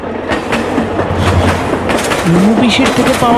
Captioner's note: train wheels